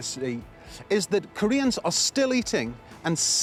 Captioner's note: none